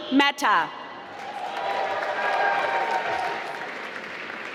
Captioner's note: applause